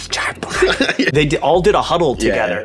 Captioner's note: laughing